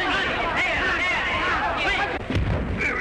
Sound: fighting sounds

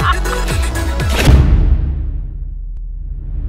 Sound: splash

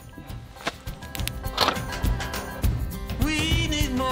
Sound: locks clicking

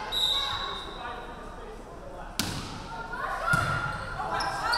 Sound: referee whistling

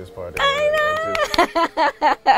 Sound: laughing

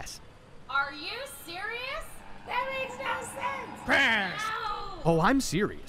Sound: crash

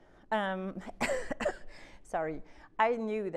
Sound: coughing

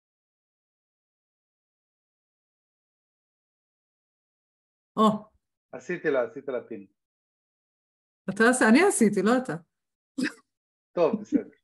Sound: laughing

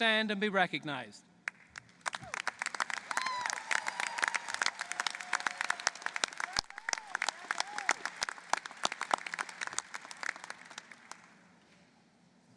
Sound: applause

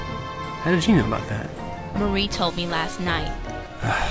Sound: scoffs

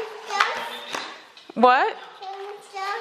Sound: baby talk

